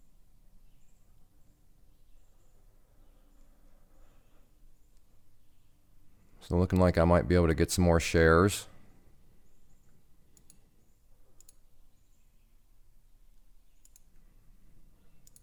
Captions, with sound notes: Still looking like I might be able to get some more shares. (clicking)